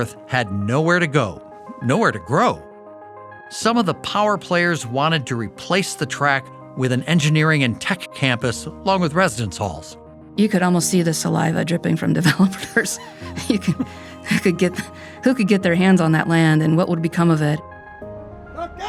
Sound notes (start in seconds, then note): 12.2 laughing